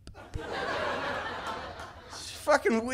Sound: laughter

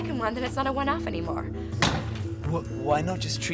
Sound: loud banging

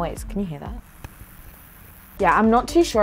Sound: fizzing

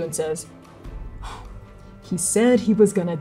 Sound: bitter exhale

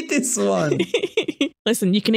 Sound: laughter

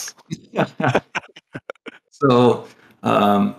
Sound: laughter

